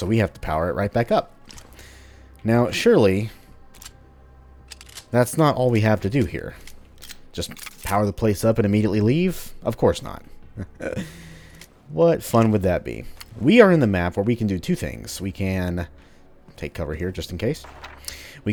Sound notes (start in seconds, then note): 10.5 slight chuckle; 17.7 journal opens